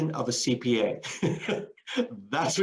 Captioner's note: laughs